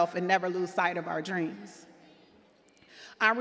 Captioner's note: none